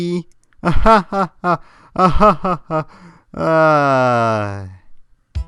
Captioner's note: forced laugh